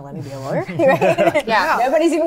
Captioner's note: laugh